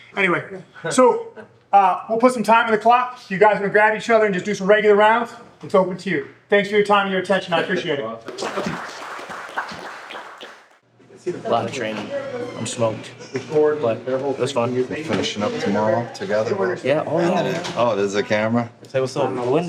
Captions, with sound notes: Anyway, so we'll put some time in the clock. You guys are gonna grab each other and just do some regular rounds. It's open to you. Thanks for your time and your attention. I appreciate it. (audience applauding) A lot of training. I'm smoked. We're finishing up tomorrow together? Yeah, oh. Oh, there's a camera? Say what's up